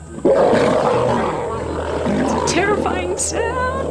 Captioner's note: roars